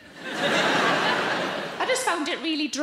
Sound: audience laughing

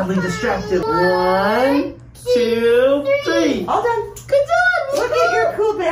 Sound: murmurs

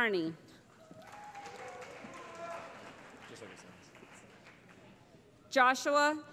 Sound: cheering

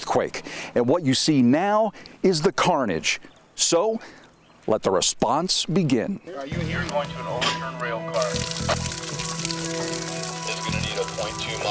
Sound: radio traffic

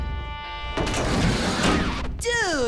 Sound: clanking

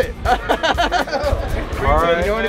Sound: laughs

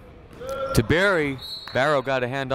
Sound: whistle blowing

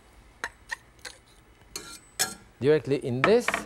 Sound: knife scraping

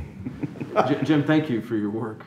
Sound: all laugh

